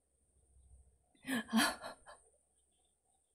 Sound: laughs

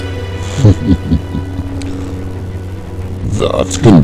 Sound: Sith Lord Chuckles

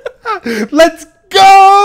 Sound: laughing

